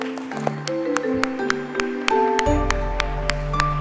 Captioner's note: applause